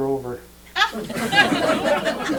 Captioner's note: laughter